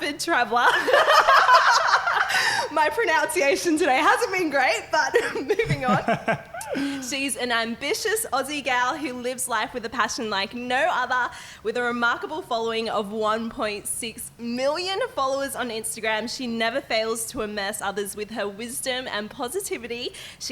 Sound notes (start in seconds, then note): 0.6 laughing; 5.1 laughing